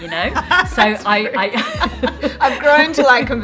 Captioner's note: laughing